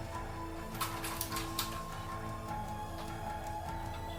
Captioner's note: metal clanking; suspenseful music